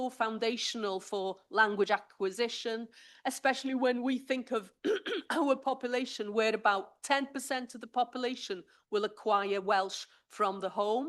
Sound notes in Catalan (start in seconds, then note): 4.8 s'aclareix la gola